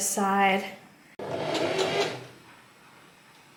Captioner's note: machine surges